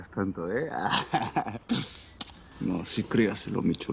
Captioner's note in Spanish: Risas